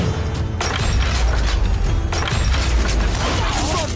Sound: dramatic music; gunshots

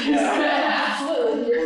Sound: laughter

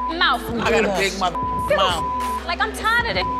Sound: beep

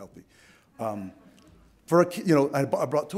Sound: audience laughs softly

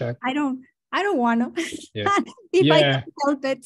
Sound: laughs

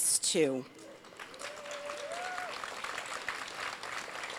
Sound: crowd applauds

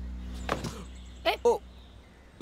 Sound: car door opens

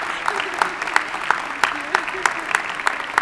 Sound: laughs

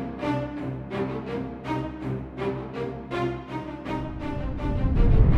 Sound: swoosh

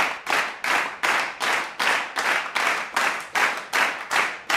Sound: rhythmic clapping continues

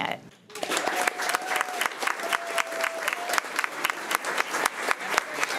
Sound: crowd cheering and clapping

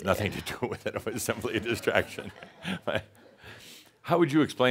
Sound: he chuckles

